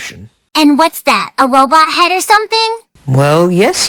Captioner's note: sarcastically